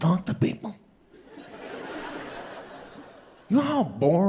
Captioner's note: audience laughing